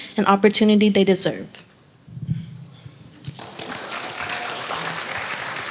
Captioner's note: applause